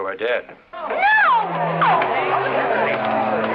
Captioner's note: people yelling; dramatic music